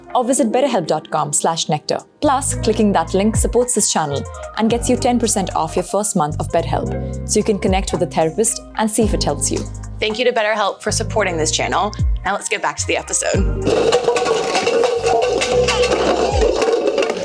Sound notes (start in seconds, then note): 13.6 cups clatter